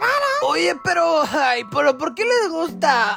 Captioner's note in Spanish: risa